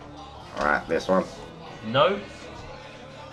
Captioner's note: awful Voice